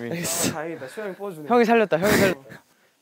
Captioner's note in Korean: 거친 숨소리